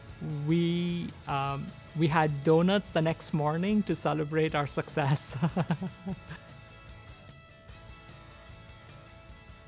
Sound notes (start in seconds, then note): 5.2 laughing; 7.1 upbeat music